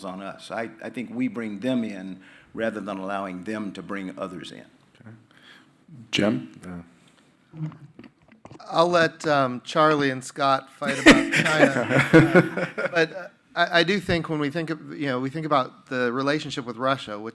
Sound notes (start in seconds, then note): 10.8 panelists laughing